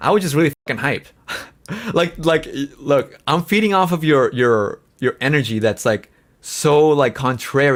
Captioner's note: laughs